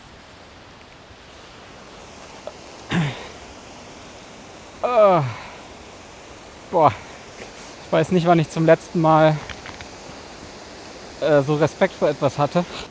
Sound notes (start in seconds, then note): 4.8 excited groan